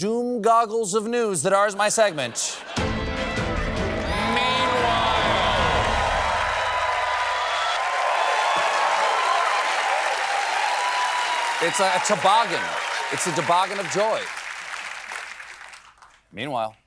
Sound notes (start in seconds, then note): 8.0 cheers and applause